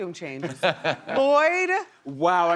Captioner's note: laughter